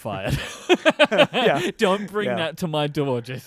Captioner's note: laughing